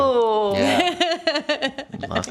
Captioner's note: laughing